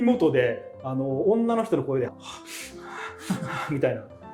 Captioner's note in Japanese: 苦しげな呼吸音